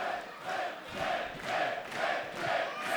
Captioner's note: fans chanting